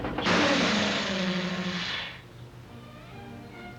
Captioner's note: vehicle hissing; gentle music